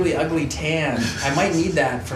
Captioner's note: laughs